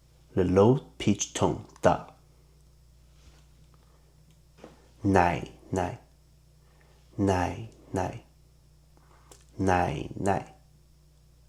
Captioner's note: in Mandarin